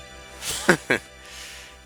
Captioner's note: laughs